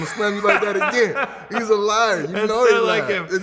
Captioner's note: laughing